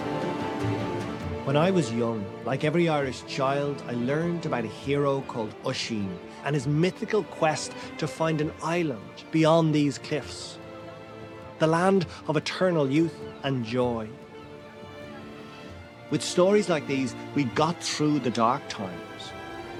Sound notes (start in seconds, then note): 1.5 voice-over